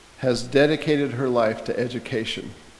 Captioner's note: none